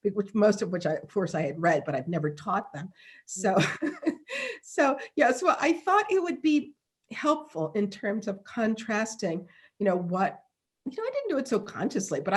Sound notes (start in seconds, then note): 2.9 laughing